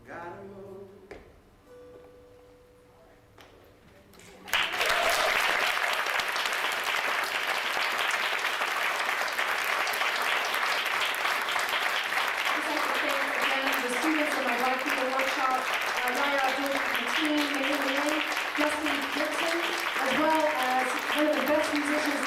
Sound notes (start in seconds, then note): 4.5 audience applauding